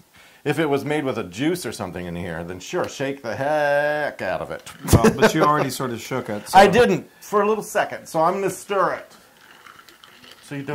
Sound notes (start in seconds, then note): 4.7 laugh